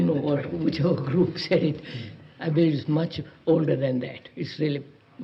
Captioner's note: laughing